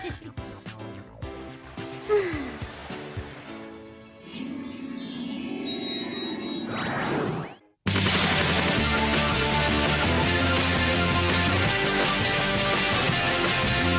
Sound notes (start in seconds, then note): 0.3 giggles; 1.7 sighs